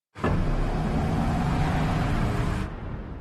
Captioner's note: engine revving